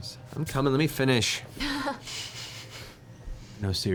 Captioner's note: laugh